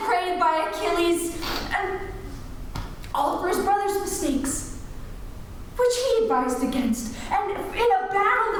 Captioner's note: sniffles